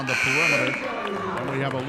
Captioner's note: referee whistling; buzzer sounding